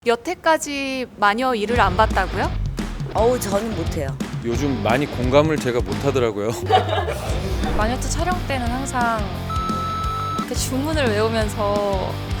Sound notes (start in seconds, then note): 6.3 laughs